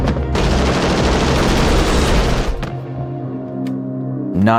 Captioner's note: gun firing